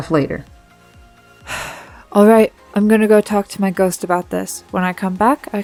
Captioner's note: sighs